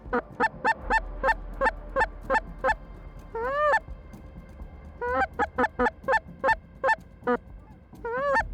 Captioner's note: bird calls